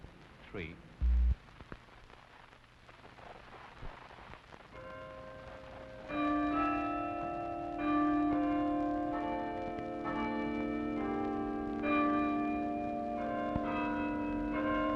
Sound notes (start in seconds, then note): 3.5 bells Ringing